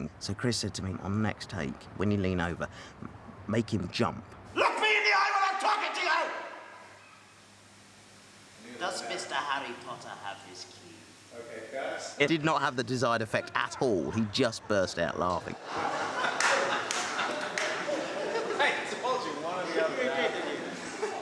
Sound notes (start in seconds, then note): 15.5 all laughing